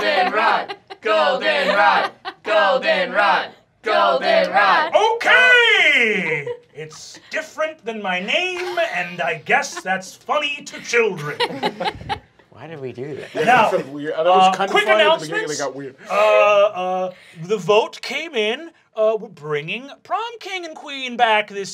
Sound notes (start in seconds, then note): 10.5 laughter